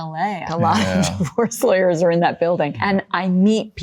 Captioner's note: laughing